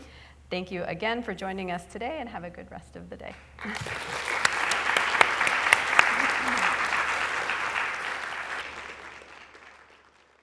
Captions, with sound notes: Thank you again for joining us today and have a good rest of the day. [applause]